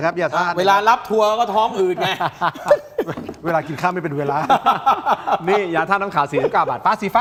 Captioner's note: laughter